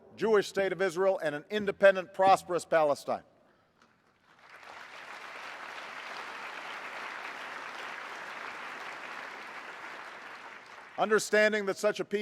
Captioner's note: applause